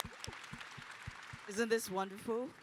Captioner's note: applause